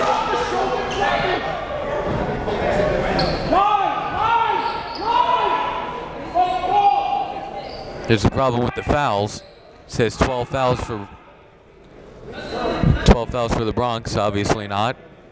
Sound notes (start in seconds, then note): 8.0 coaches yelling